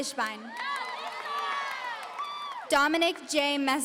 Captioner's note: audience cheering